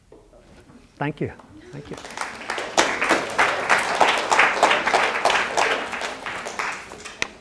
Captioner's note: applause